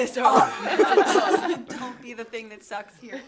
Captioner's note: laughter